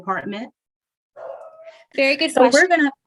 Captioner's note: dog howl